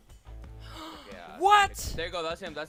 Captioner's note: gasps